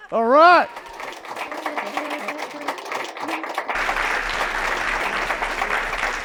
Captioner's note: applause